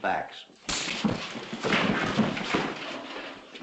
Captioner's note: punch - thud